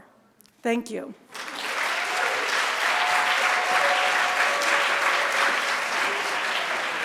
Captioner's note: audience cheering and applauding